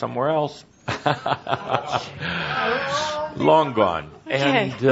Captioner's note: chuckles